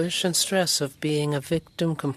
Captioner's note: speaking French